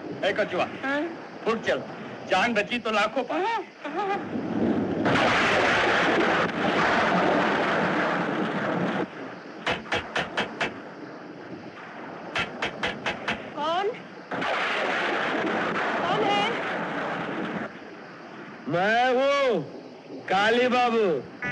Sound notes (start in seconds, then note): 5.1 thunder Rumbling; 9.6 knock On Door